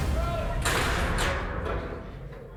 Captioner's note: door clattering